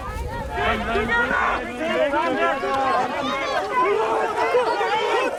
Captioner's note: foreign spoken audio